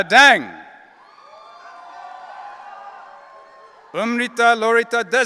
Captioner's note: audience cheering